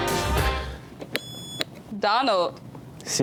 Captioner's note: lively music; buzzer beeps